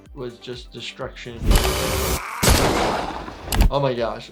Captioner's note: Toothfairy gnarls; gunshot cracks